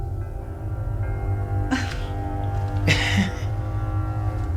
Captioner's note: coy laughter